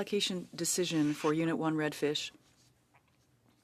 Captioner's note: speaking French